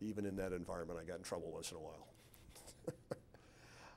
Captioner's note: laughs